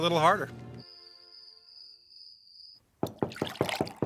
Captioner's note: crickets; knocking